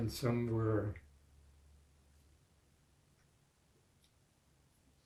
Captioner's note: pauses 6 seconds